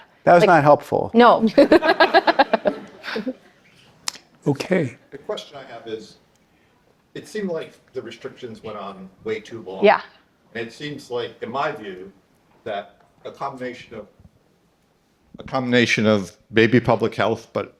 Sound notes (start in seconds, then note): 1.4 participants laughing